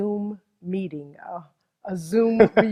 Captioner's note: laughs